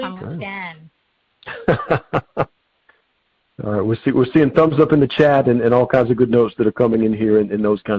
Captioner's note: chuckling